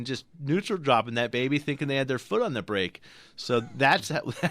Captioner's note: laughs